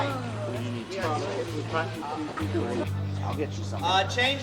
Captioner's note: indistinct chatter